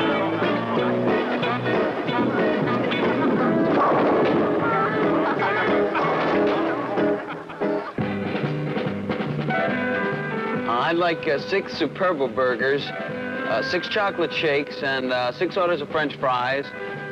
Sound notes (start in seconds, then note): 3.6 ball strikes bowling pins; 5.0 laughter; 6.5 music transition